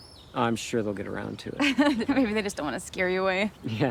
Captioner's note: Zoe laughs